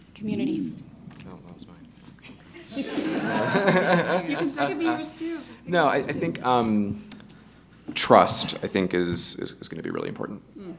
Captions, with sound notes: - Community. - Oh, that was mine. (all laughing) - You can second if it yours, too. - No, I think, trust, I think, is gonna be really important.